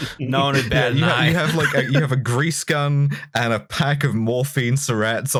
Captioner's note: laughter